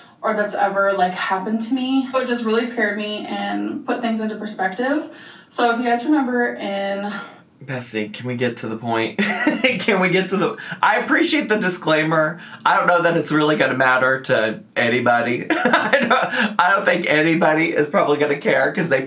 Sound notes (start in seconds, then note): 9.2 chuckles